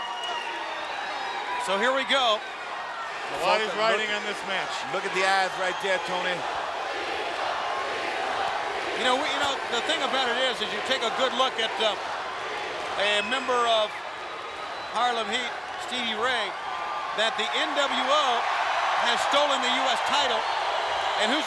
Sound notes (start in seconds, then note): 0.1 crowd cheering; 6.1 crowd chanting